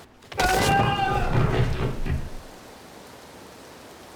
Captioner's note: Harry screaming